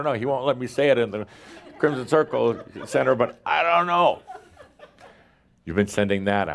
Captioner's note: more chuckles